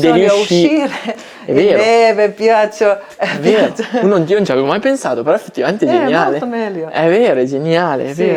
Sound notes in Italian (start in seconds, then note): 3.3 risate